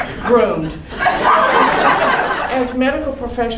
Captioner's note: crowd laughing